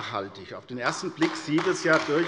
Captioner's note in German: Beifall AfD